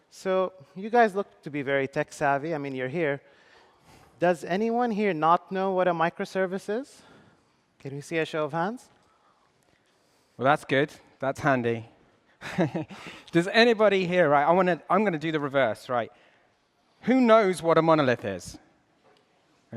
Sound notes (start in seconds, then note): 12.4 laughs